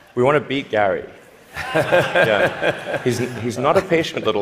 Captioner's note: laughter